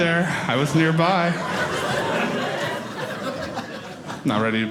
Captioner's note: audience laughing